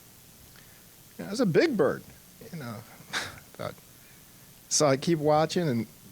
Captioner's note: chuckling